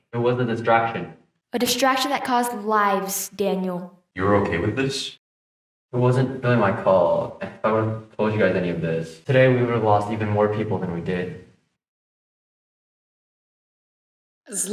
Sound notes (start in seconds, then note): 12.1 solemn silence